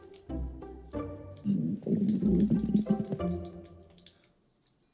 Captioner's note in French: Bruit d’estomac